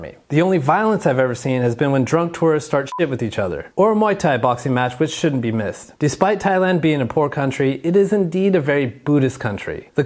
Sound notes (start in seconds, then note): 2.9 beep